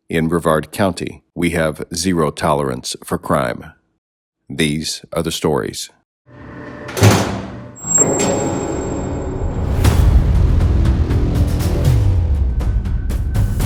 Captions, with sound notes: In Brevard County, we have zero tolerance for crime. These are the stories. (machinery noises) (intense ominous music) (intense upbeat music)